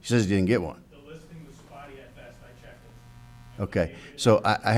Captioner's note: speaking off mic